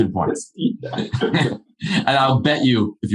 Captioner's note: laughing